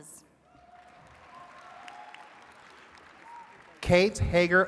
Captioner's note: attendees cheering and clapping